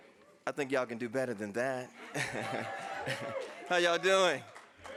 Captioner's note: laughs